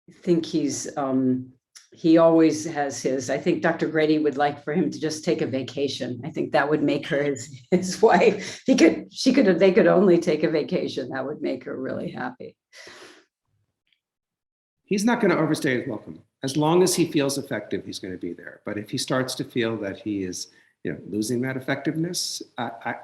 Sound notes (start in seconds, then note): 7.0 laughs